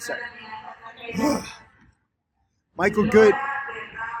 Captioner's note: frustrated grunt; airport announcement in foreign language